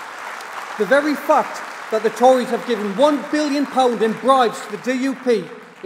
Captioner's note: applause